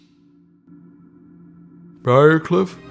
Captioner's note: none